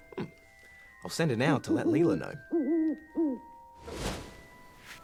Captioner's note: owl hoots